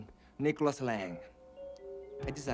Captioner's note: chuckling